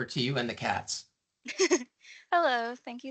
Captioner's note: chuckes